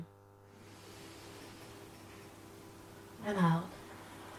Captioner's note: people inhaling